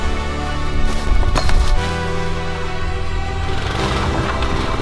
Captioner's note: equipment ruffles; engine revs